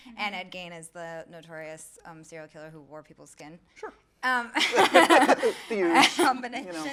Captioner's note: laughs